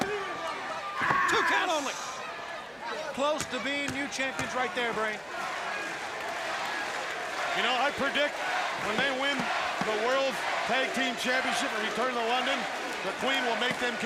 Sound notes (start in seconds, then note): 5.8 crowd cheering